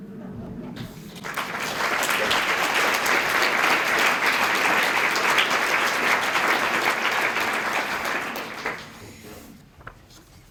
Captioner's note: applause